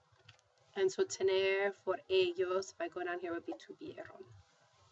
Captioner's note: spanish